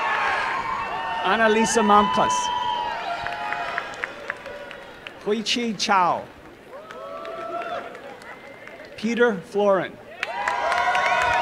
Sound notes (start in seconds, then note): 6.7 applause